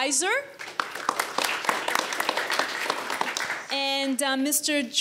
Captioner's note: audience applauds